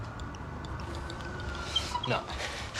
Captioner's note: sirens wailing